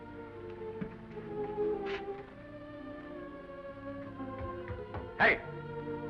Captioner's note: gentle music; footsteps receding